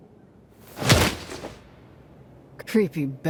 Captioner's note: air whooshing